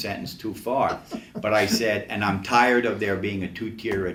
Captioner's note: still laughing; laughs